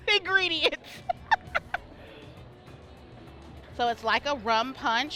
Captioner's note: laughs